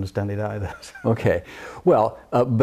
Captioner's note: laughs